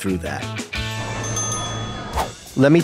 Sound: bell dings

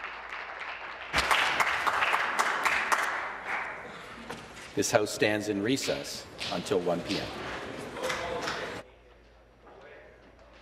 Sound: applause

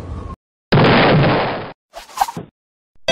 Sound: crash!

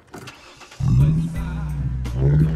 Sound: engine revs

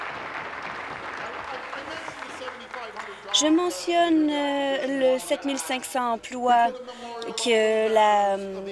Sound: applause

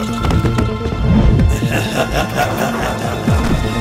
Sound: Dad laughs

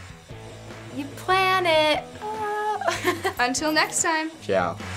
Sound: giggles

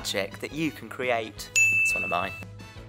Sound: correct ding sound

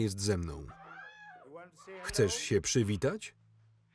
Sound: screaming

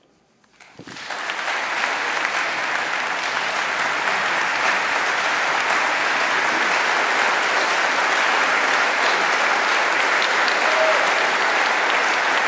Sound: applause

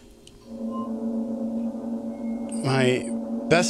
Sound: loud vibrating hum

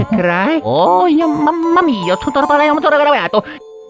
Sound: italian gibberish

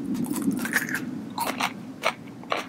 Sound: chewing

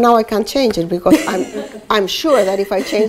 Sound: laughter

